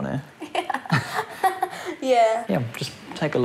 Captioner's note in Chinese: 笑聲